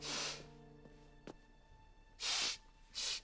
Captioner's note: sniffling